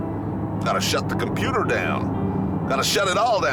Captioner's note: American accent